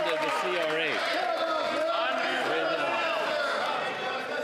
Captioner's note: some Applause